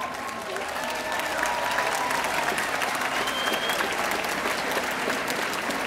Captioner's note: audience applauding